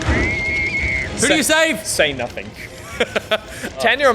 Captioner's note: chuckling